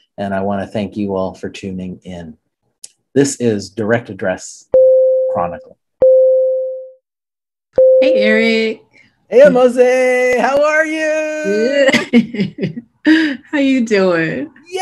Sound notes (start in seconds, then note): 11.9 laughing